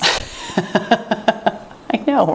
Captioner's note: laughing